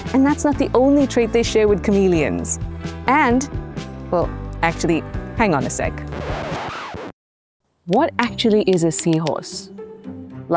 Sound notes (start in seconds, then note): 6.0 record scratching